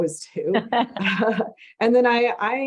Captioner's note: laugh